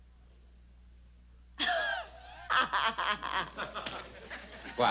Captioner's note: chuckles